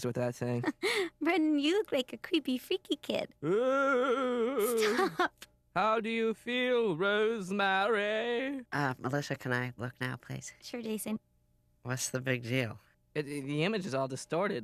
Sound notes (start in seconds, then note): 3.4 moaning eerily; 7.4 eerily